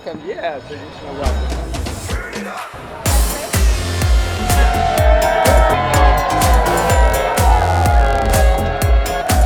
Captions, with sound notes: Yeah, a traditional welcome. [Cheering]